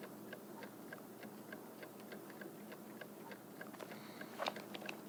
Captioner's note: clock ticking